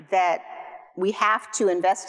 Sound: none

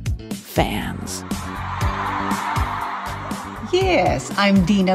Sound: crowd cheering

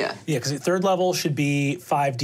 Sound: none

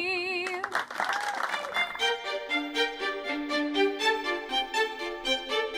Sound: applause; lively string music

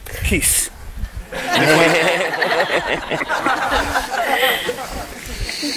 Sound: laughing

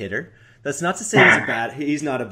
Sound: laughs

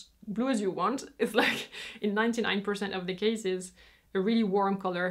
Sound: chuckles

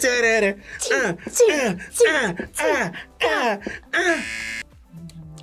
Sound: hums video game music; both make fight noises; buzzer

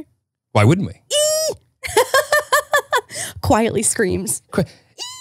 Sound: squealing and laughing

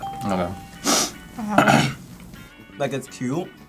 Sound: sniffs

